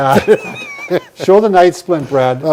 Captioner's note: both laughing